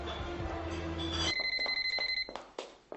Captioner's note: phone ringing